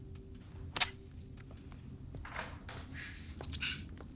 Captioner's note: syringe squelches